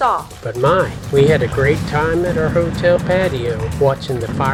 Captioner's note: fireworks Sounds